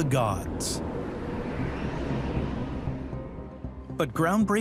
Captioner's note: gentle suspenseful music; air whooshes